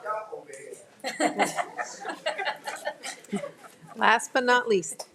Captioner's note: all laugh